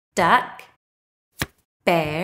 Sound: the sound of a card being turned over can be heard

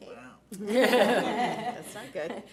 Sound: board laughs

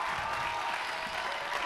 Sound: cheers and applause

